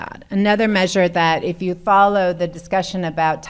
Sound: none

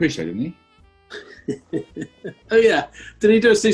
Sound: chuckling

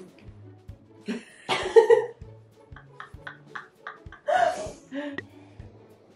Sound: both laugh

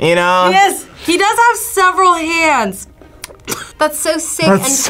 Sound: laughs

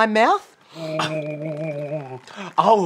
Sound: gargling

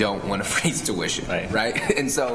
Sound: chuckles

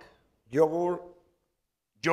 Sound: spanish

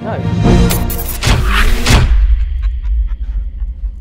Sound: sci-Fi Explosion

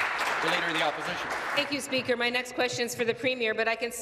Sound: applause

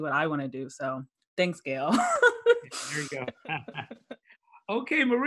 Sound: background laughs

